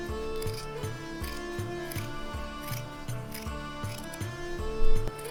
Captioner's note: snickety, snip, snip